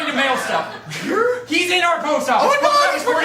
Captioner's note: excited